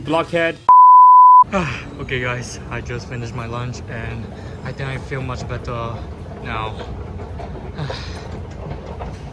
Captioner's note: sigh